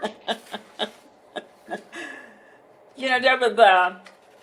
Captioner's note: laughing